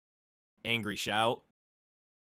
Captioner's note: angry shout